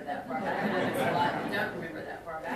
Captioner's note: audience laughing